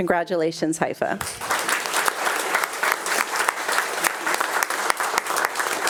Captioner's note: attendees applauding